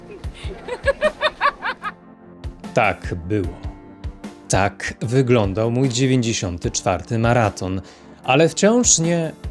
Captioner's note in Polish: śmiech